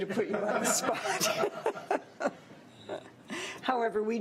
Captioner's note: laughs